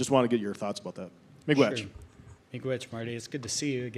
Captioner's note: speaks in native language